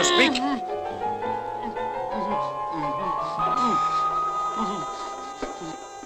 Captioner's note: whimpering